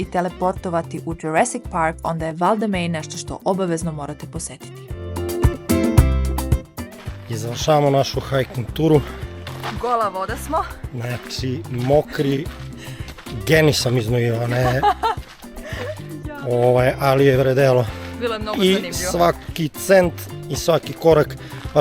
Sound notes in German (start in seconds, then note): 14.2 haha